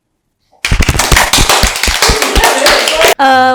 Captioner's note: claps